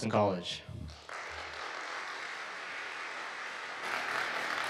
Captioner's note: audience applauding